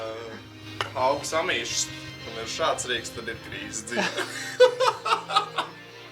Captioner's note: laughing